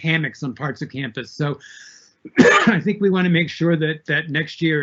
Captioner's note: coughs